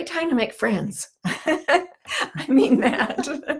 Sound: laughs; both laughing

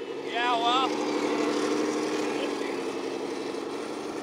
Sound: machine rumbles

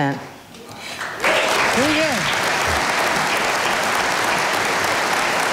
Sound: audience applauding

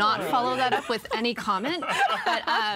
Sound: everyone laughing

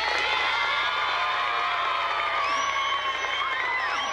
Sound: crowd applauding; crowd screaming

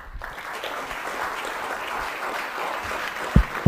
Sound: applauding

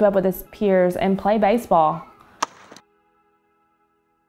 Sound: bat whacks against the ball

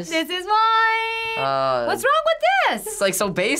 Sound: groaning

